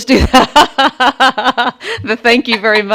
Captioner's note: laughing